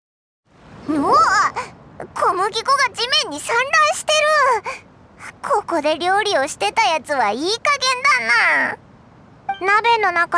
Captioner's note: tsk